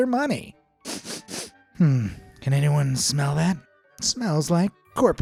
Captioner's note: sniffs